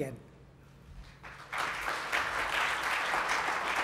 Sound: applause

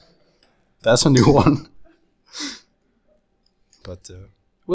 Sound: laughs

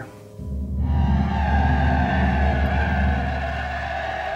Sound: men cheer

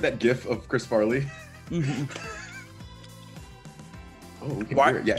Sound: laugh

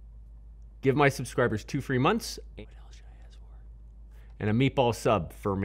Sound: whispering

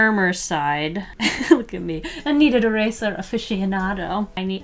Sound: laughs

